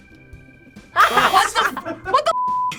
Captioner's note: buzzer